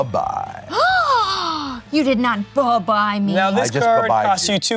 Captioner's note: gasps